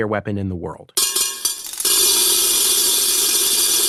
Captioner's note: buzzing